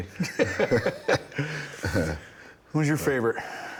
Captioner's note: everyone laughing